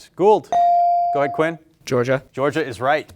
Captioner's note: bell ringing